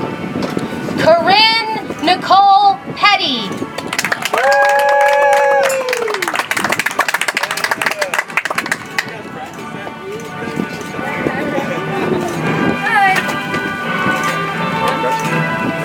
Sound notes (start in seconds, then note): 7.3 audience applauds; 12.6 soft music